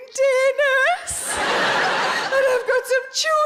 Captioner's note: audience laughing